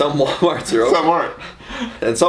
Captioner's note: laughs loudly